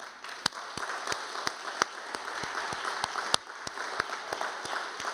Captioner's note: audience applauding